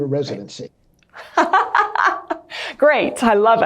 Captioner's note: laughing